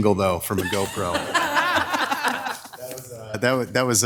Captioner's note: attendees laughing